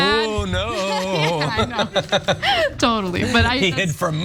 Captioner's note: laugh